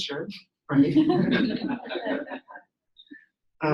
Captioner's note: laughing